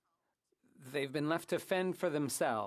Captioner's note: speaking French